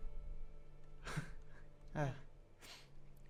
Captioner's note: half-Hearted Laugh